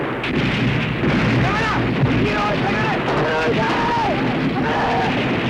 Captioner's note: speaking japanese